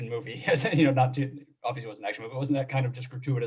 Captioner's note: chuckles